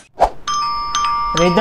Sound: door Bell Ring

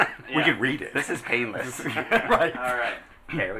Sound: laughing

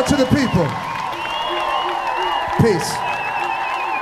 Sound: audience cheering

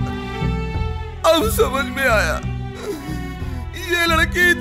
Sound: crying

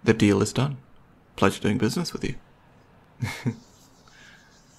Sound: laughs

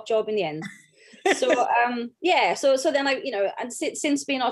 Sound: laughs

